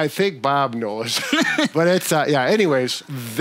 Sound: laughs

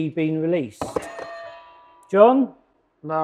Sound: buzzer ringing

